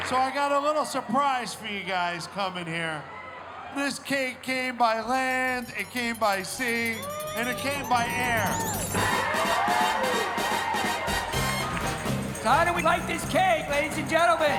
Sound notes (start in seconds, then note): 5.1 bells ringing; 8.9 exciting music